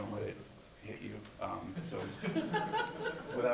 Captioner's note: laughter